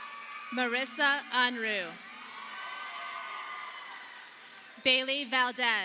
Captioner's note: audience applauding